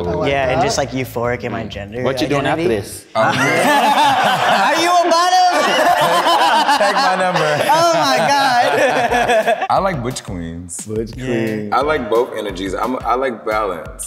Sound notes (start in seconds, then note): 3.1 all laughing; 5.8 laughs; 6.3 all laughing